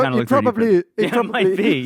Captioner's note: laughs